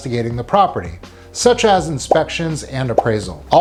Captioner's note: graphic blipping